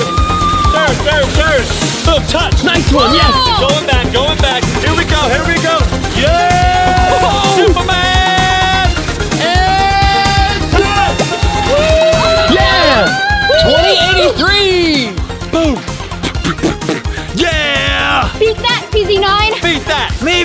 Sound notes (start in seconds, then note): 12.2 cheering